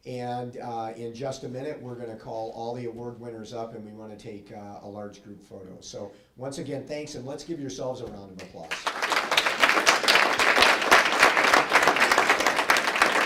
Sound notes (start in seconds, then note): 8.6 applause